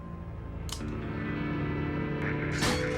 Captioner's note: click